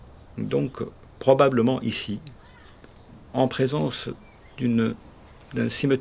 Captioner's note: continuing to speak French